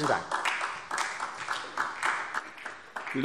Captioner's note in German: Beifall SPD